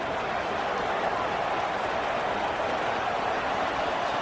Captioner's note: crowd Noises